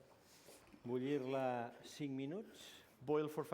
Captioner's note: non-english speech